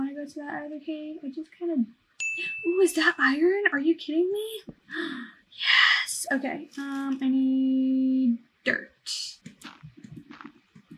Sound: gasp

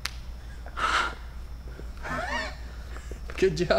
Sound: wheezing

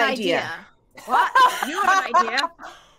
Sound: players laughing

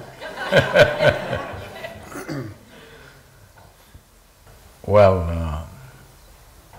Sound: Sadhguru laughs

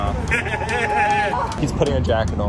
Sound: man laughs

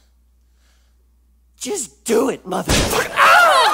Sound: gunshot

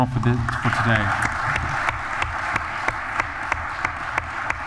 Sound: applause

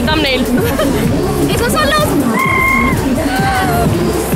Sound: makes recorder noises lol

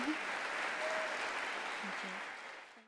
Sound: audience applauds

